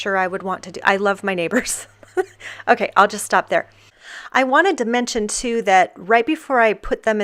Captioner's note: laughs